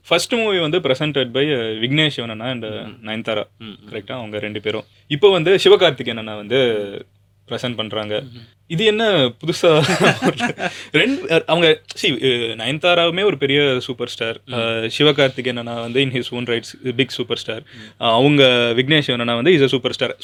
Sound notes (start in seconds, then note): 9.8 laughter